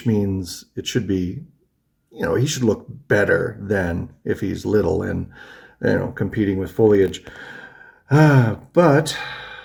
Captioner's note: sighs